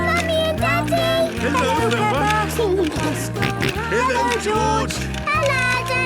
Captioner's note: George giggling and snorting